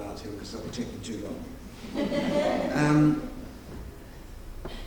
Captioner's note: audience laughing